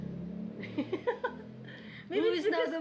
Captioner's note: laughs